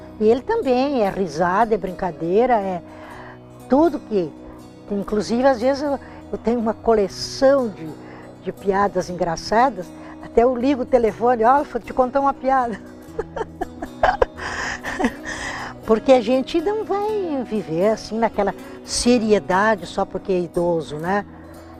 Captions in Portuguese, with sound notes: Ele também, é risada, é brincadeira, é... tudo que... Inclusive, às vezes eu... eu tenho uma coleção de piadas engraçadas Até eu ligo o telefone "Oh, eu vou te contar uma piada!" (risos) Porque a gente não vai viver assim naquela seriedade só porque é idoso, né